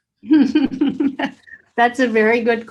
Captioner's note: laughing